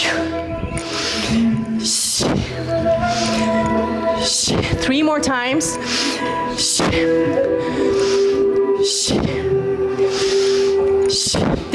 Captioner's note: snorts